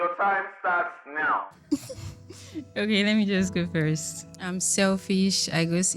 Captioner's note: laughs